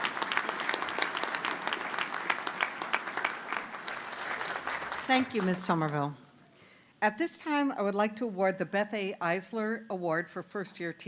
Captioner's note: applause